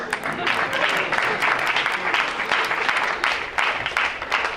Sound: crowd applauds

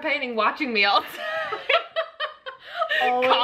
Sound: both laughing

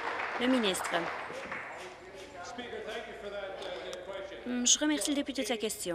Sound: applause

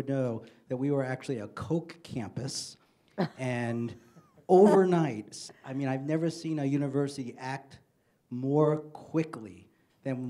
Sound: single laugh

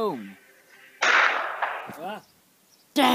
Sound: gunshot

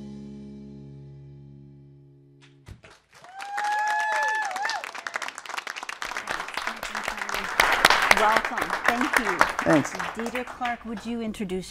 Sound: applause

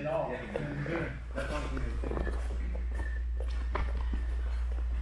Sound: spectators chattering

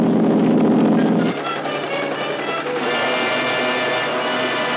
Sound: helicopter whirring

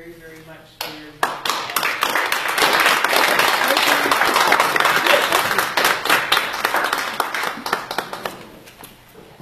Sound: applause

